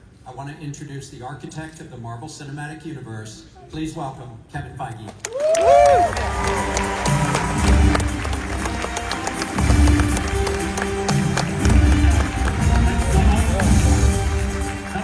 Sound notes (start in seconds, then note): 10.3 applause